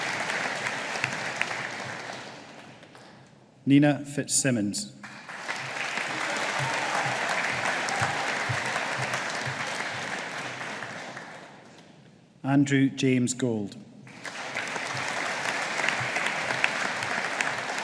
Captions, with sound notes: Nina Fitzsimmons. (AUDIENCE APPLAUDING) Andrew James Gold. (AUDIENCE APPLAUDING)